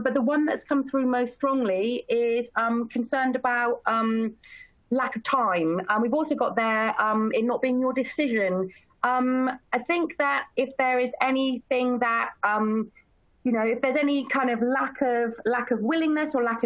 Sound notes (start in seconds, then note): none